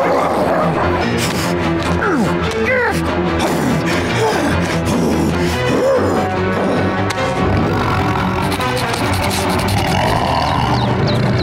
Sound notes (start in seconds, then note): 0.1 grunting; 3.3 grunting intensifying; 7.2 grunting becoming growling